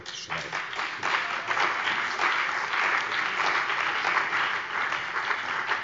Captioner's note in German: Beifall bei dem BÜNDNIS 90/ DIE GRÜNEN und der CDU